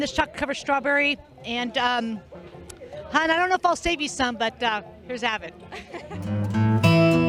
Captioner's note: chuckling